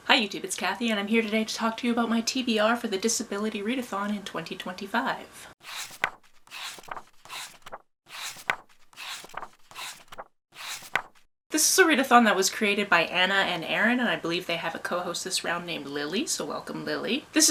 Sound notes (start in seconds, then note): 5.6 pages turning